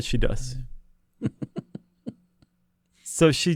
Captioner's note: chuckles